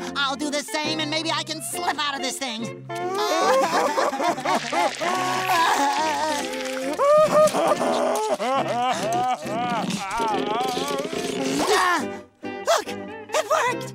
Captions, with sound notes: I'll do the same and maybe I can slip out of this thing. [crying] [crying] [grunting] Look, it worked!